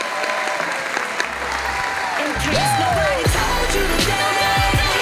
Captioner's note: audience applauding